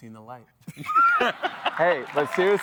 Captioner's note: laughter